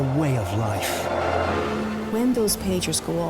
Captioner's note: boat droning; helicopter whirls